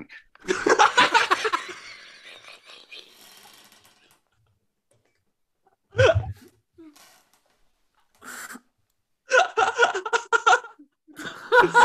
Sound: extended laughter

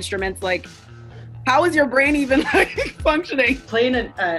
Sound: laughing

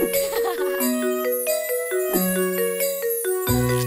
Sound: lively music; chuckling

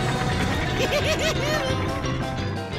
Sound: giggling

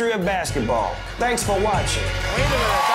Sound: applause

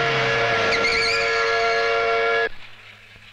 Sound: factory siren blares; brakes squeal

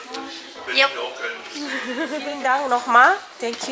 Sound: laugh

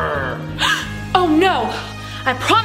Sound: exclaiming

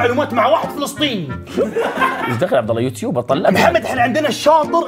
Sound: everyone laughs

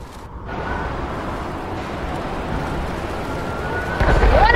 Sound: wind blowing

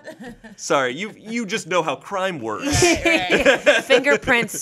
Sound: laughs

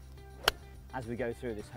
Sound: hitting ball

